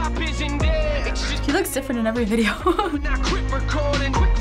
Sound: chuckles

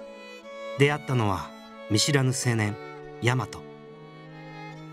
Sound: gentle and straight-talking

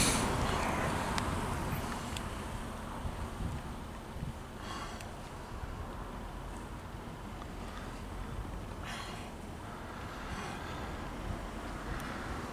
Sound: traffic noise

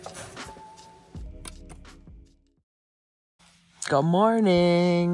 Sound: switch clicks

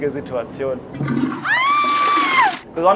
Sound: flush, woman screams

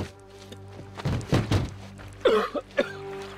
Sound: coughing

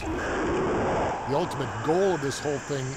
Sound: rocket blast

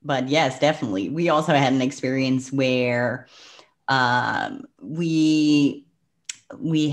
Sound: breath; clicks tongue

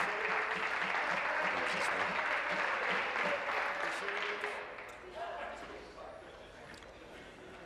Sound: applause

